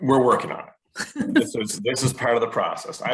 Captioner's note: woman laughing